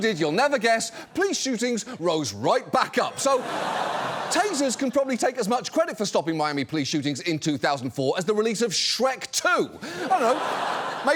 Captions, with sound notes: you'll never guess, police shootings rose right back up. -So... -(AUDIENCE LAUGHS) ...Tasers can probably take as much credit for stopping Miami police shootings in 2004 as the release of Shrek 2. -(AUDIENCE LAUGHS) -I don't know,